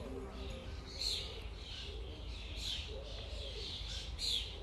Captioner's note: chirping birds